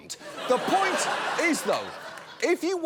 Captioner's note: laughter